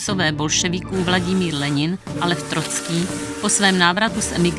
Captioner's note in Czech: houkání vlaku